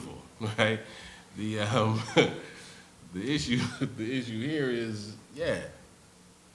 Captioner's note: laughs